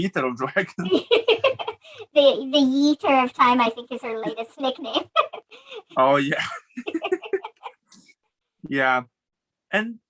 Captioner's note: laughs